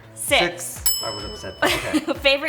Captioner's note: bell dings